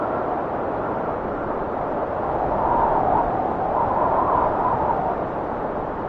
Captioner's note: wind whistling continues